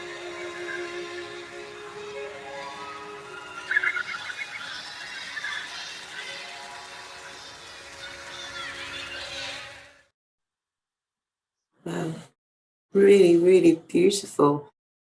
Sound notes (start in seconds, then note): 5.1 birds calling